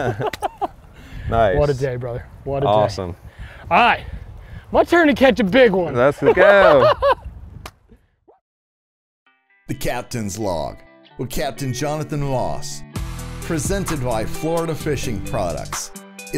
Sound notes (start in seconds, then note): 0.0 both laughing; 6.0 laughing; 9.0 gentle music